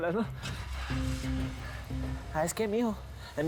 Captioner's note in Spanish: ruido del motor del auto